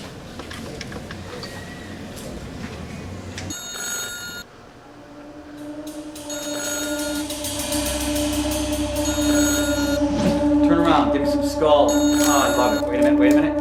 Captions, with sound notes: (buttons clicking) (phone ringing) (eerie music) - Turn around, give me some skull. Oh, I love it.